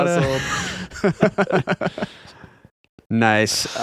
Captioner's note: laughing